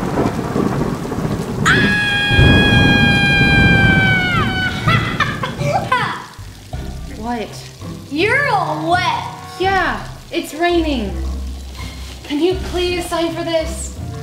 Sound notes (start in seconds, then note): 1.6 screams; 5.0 laughs